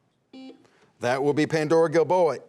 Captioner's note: buzzer sounding